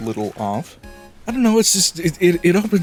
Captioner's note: stammering